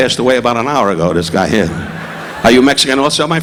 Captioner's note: audience laughing